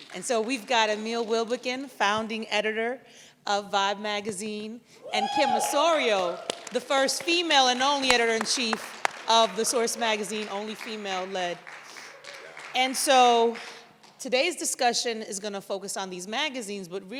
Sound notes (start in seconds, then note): 5.0 audience cheers; 11.6 clapping contines